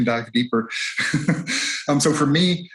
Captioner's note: chuckles